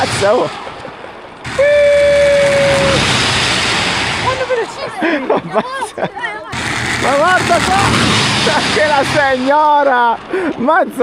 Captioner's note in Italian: risate